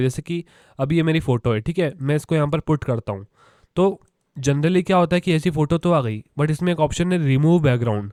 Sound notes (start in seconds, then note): 3.3 echoing gasp